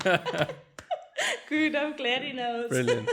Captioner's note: laugh